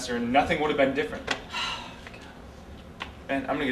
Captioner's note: sighs